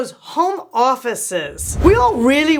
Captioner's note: air whooshes